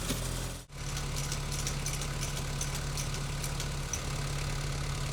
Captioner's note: metal clanking